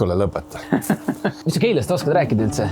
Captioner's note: laughing